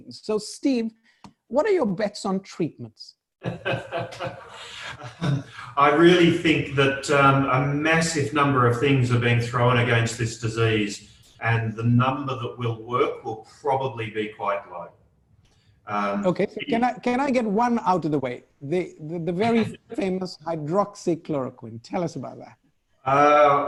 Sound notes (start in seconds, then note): 3.4 laughing